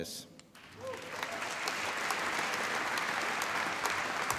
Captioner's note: applause